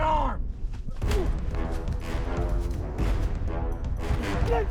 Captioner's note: punch connecting; grunting